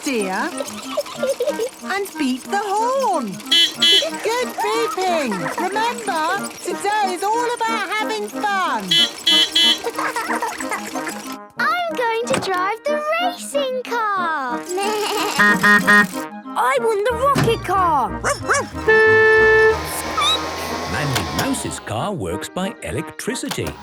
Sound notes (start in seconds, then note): 0.0 giggling; 3.1 beeping; 8.5 beeping; 8.5 laughing; 14.4 bleating; 15.3 honking; 18.2 squeaking; 18.2 barking; 18.3 honking